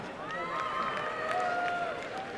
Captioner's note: applause and cheering